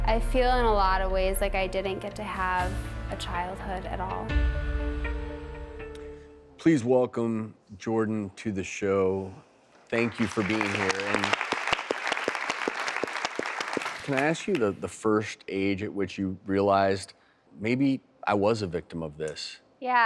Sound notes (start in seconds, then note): 9.9 audience applause